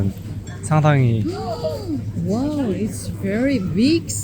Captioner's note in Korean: 놀람